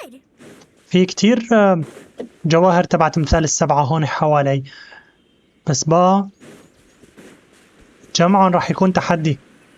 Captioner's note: footsteps